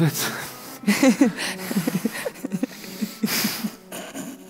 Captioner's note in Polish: śmiech